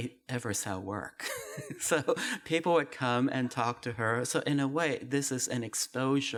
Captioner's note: laughs